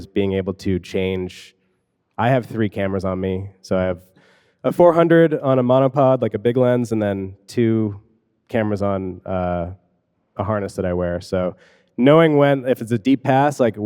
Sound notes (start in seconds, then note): none